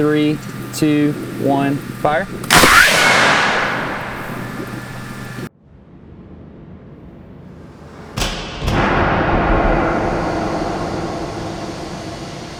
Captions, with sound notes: Three, two, one, fire. [cannon fires] [cannon fires]